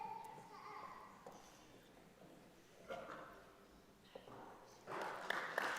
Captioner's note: applause